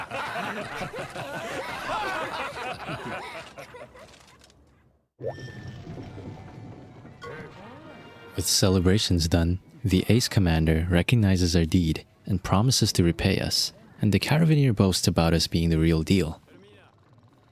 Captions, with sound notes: (laughing) With celebrations done, the Ace Commander recognizes our deed and promises to repay us, and the Caravaneer boasts about us being the real deal.